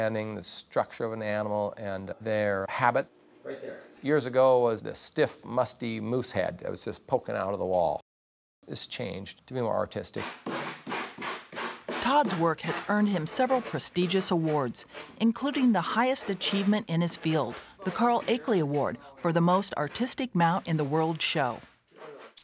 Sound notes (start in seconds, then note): 10.3 scraping